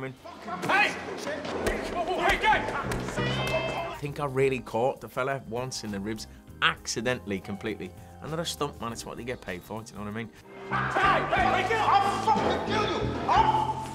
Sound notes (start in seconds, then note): 1.2 loud punching; 1.2 yelling; 3.2 screams; 10.8 yelling